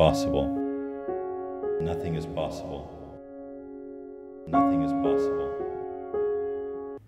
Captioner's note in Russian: эхо